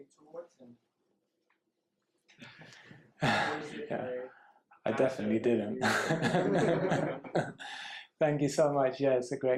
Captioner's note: laughs